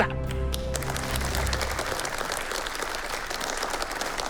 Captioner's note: applauses